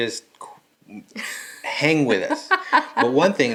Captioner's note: laughing